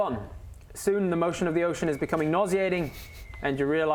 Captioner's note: faint whistling